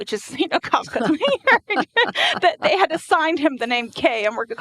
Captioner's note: laughing